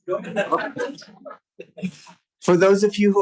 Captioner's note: laughter